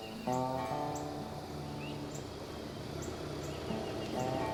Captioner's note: engine rumbling